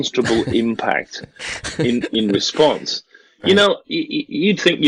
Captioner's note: laughs